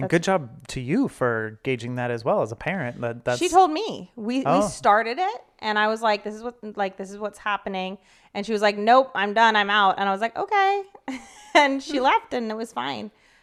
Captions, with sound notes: - And good job to you for gauging that as well, as a parent. - She told me. - Oh. - We started it, and I was like, "this is what's happening," and she was like, "Nope. I'm done, I'm out." And I was like, "Okay." (laughs) And she left, and it was fine.